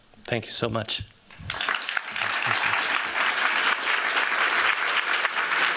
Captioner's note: applause